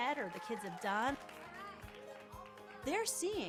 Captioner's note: children applauding and whooping